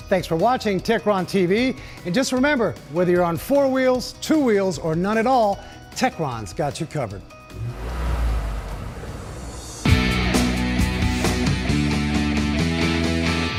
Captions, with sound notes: Thanks for watching TechronTV and just remember whether you're on four wheels, two wheels, or none at all, Techron's got you covered. [Engine revving] [Rock music]